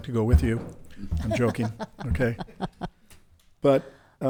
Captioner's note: laughs